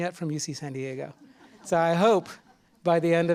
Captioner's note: laughter